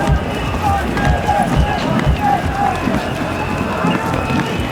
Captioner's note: loud chants